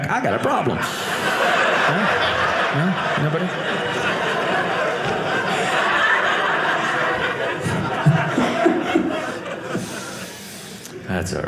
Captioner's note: audience laughing